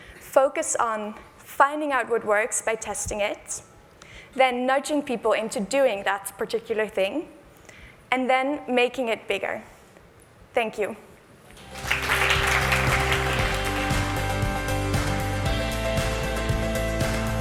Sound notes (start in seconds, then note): 11.5 applause